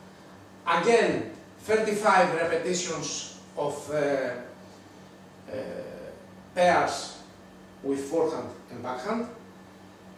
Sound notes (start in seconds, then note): none